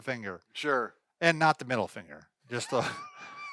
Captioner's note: laughing